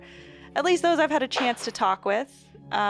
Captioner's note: dog throwing her toys around